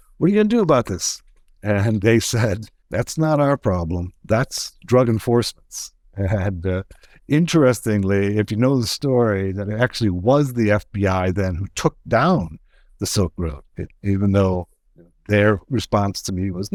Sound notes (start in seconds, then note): none